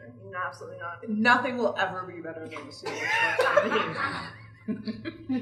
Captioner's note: laughter